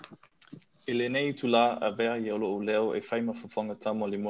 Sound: speaking in Samoan language

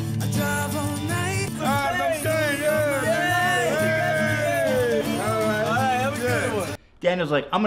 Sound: lots of friendly yelling

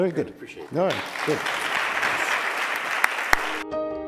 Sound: applause

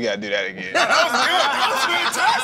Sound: laughter

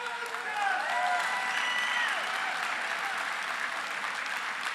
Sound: applause

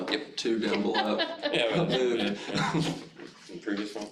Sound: laughing

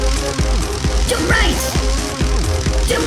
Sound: crackling electricity

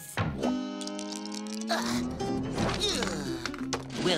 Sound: grunting

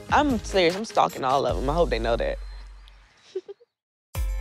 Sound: giggles

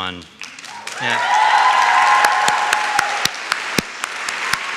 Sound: audience shouts and claps

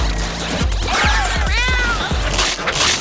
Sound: cat meowing

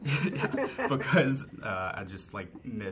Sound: group laughing

